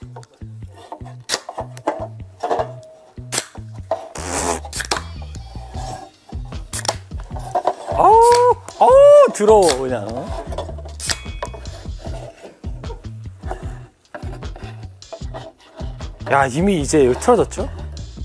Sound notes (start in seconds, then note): 9.6 Clear opening the can